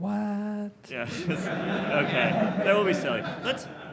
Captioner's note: audience laughs